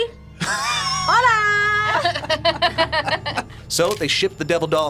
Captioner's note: both laugh